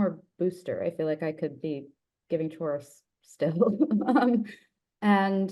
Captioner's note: chuckles